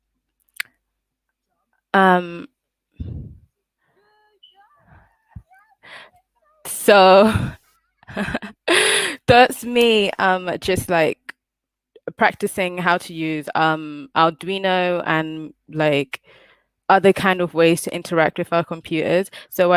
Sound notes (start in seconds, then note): 7.1 laughs